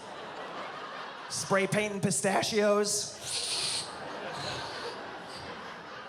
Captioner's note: spraying sound